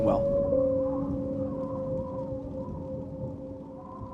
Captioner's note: wind whistling